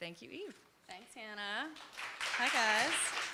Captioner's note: group clapping